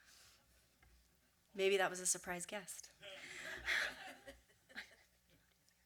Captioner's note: light laughter